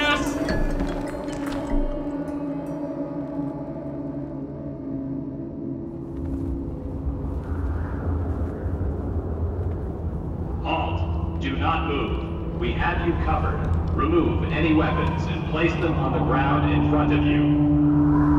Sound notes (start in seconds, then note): 6.1 wind howls